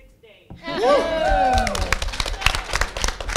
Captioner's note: cheers, clapping